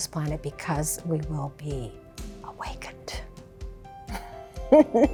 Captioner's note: laughs